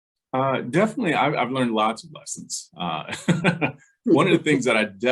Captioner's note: laughs